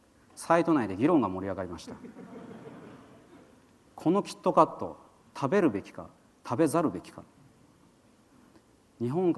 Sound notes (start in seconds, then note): 2.0 laughter